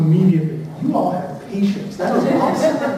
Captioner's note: laughter